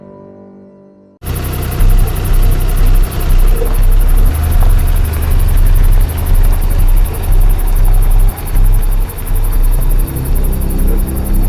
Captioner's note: car engine sounds